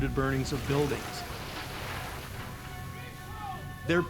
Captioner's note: hose spraying, people shouting in background